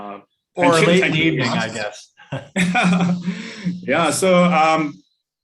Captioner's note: laughs